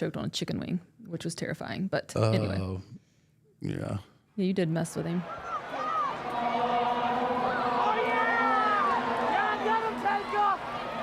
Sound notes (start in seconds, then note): 5.2 group chanting